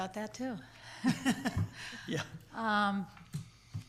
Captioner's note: laughs